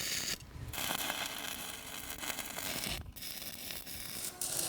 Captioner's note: sparking